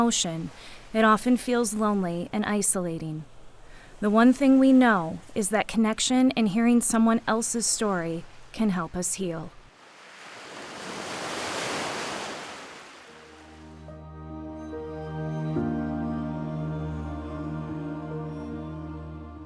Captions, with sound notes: Though it's the most universal human emotion, it often feels lonely and isolating. The one thing we know is that connection and hearing someone else's story can help us heal. (waves crashing) (gentle music)